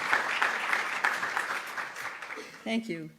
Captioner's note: applause